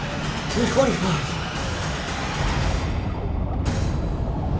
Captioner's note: water bubbling